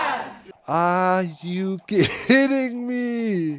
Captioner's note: hundreds of chickens clucking